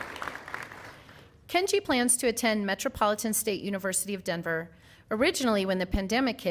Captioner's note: applause